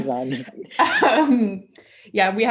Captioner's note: laughs